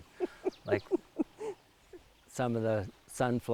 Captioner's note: laughing